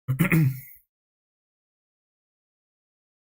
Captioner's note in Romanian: voce dreasă